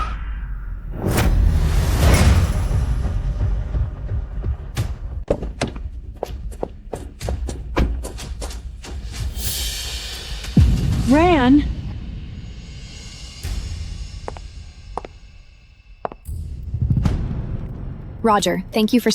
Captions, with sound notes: [Thunder] [Thunder] [Thunder] Ran? Roger, thank you for